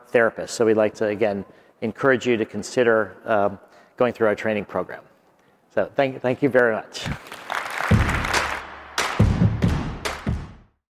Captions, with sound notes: So we'd like to, again, encourage you to consider going through our training program. So thank thank you very much. (audience clapping) (upbeat music)